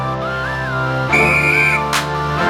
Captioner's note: whistle Blows